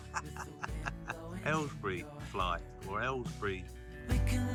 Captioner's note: laughs